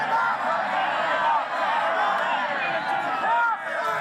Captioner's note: crowd shouting